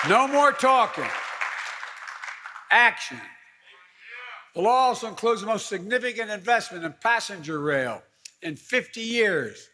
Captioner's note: applause